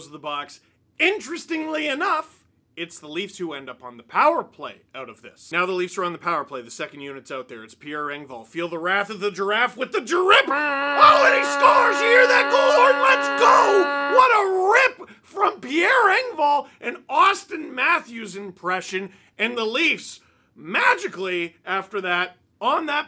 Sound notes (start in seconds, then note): 10.4 goal horn